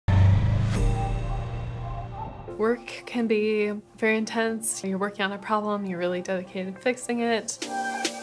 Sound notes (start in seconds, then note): 0.1 motorcycle revving; 1.1 mellow music